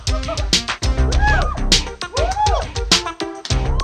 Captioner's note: women cheering